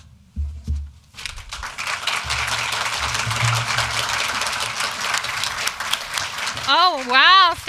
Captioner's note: applause